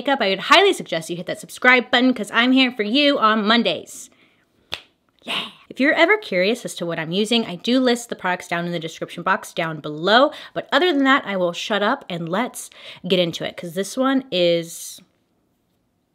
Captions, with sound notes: I would highly suggest you hit that subscribe button, 'cause I’m here for you on Mondays. (finger snap) Yeah! If you’re ever curious as to what I’m using, I do list the products down in the description box down below. But other than that, I will shut up and let’s get into it, 'cause this one is...